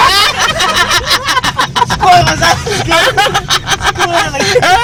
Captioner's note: laughing